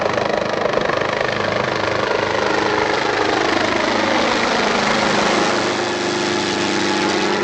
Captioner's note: helicopter passing